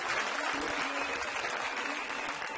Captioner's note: audience applauds